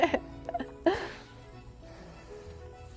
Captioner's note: laughs